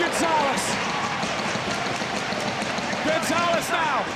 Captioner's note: audience cheering